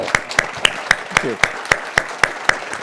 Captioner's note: audience clapping